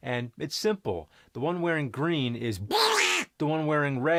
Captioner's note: with Donald's voice